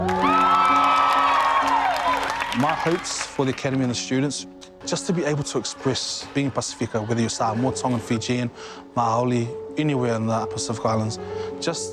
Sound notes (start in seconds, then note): 0.0 audience applauds